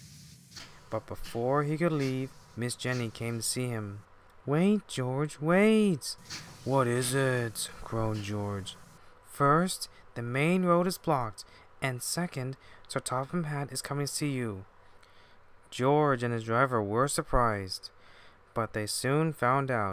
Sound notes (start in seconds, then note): 6.1 groan